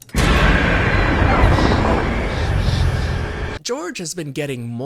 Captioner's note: ominous Music; maniacal Growling